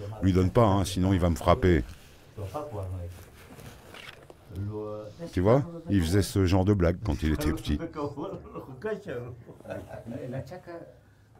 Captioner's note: laughs